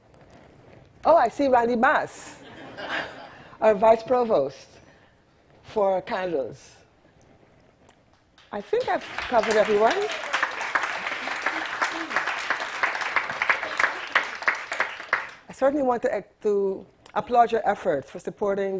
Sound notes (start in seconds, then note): 11.0 audience applauding